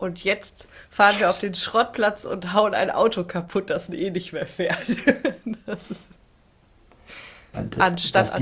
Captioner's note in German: gelächter